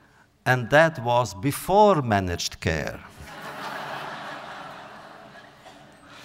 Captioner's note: audience laughter